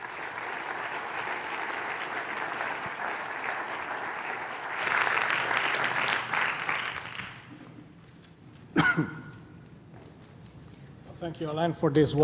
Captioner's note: applause